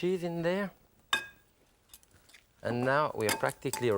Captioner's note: utensil clinks